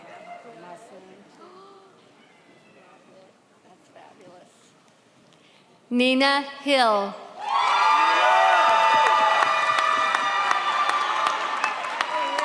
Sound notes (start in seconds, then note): 7.4 audience cheers